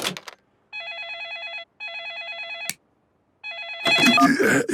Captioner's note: phone ringing